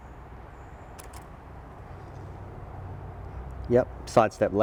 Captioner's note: clicking